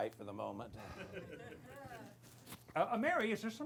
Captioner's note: laughter